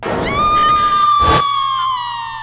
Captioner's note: none